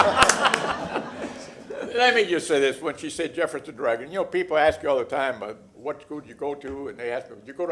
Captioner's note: laughter